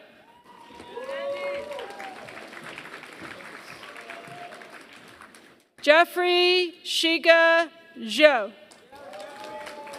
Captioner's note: applause; applause